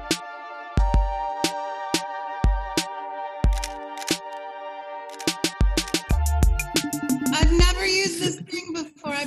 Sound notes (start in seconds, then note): 3.5 camera clicking